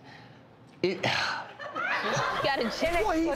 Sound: audience laughs

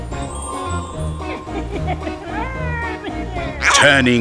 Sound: evil laughter

